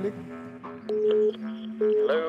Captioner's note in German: Freizeichen